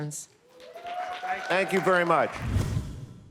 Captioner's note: audience applauds